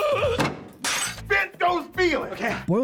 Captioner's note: plate smash